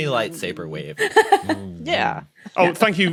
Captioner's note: blurts laugh